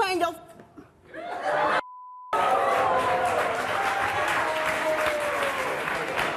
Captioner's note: audience yelling